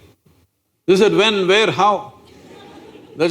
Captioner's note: laughter